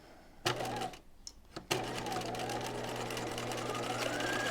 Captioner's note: sewing machine whirs